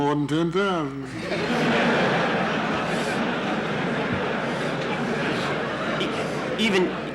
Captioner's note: laughter in the courtroom